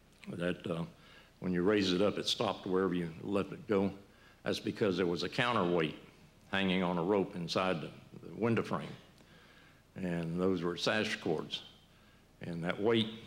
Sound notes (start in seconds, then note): none